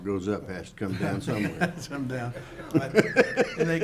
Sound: laughs

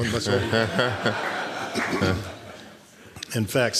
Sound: laughter

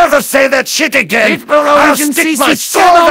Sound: in German; in German

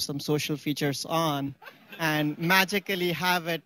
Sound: laughter

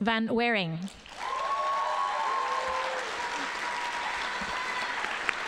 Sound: audience applauding

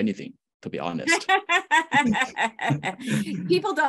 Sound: laughs

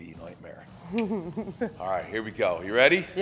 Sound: laugh

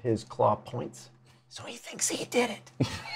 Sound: whispers

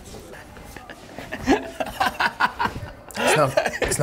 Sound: laughing

